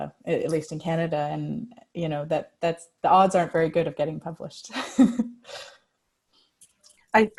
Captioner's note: laughs